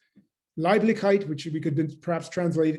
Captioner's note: german